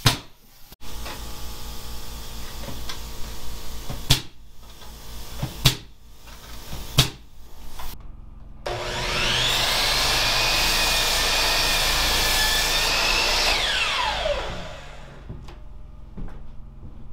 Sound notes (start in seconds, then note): 3.4 drill whirring